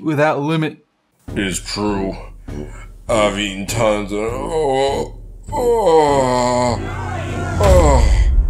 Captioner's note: fat voice